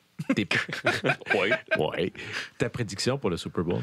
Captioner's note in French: rires